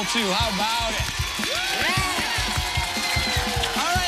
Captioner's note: cheers and applause